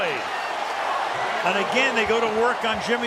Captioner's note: cheering